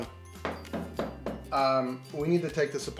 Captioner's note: knocking